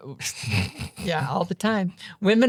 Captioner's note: laughing